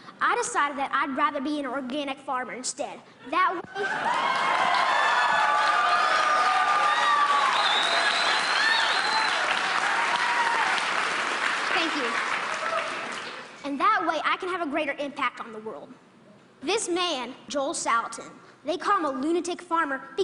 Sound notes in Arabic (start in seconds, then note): 3.9 تصفيق